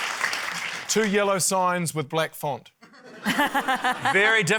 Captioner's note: laughter